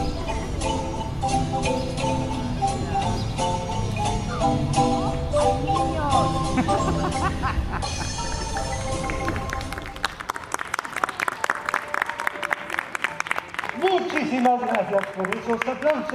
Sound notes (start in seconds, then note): 9.0 applause